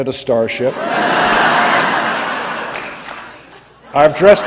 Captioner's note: laughter